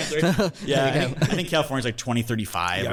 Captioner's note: hosts laugh